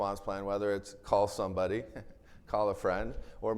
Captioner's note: chuckles